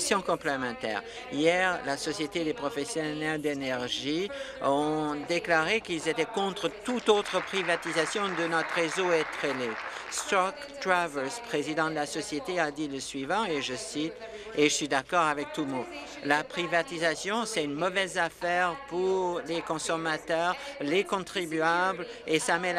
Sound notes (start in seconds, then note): 12.4 applause